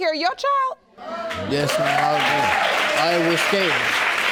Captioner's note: audience applauding